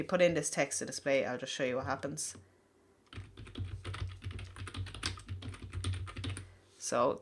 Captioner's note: typing sound